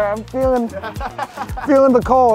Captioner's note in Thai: เสียงหัวเราะ